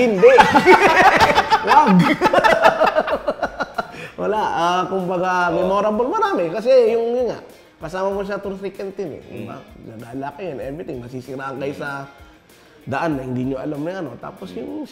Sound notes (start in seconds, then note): 0.1 both laugh; 2.1 both continue laughing